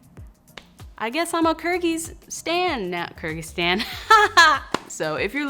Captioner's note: she laughs